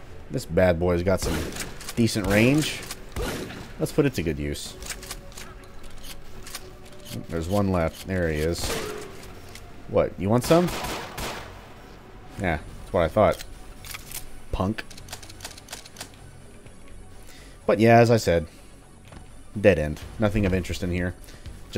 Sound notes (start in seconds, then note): 10.4 Vulture Shotgun blast; 11.1 pew pew pew pew